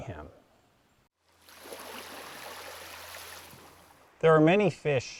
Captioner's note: waves crashing